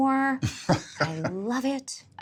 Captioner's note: chuckling